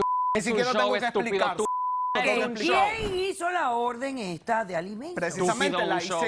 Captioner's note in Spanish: Bip